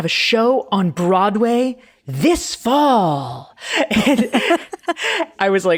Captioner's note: laughing